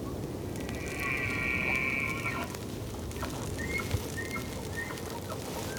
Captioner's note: animal squealing